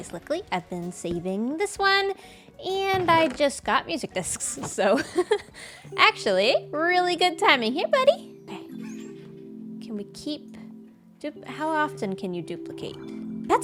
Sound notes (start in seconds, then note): 4.9 laughs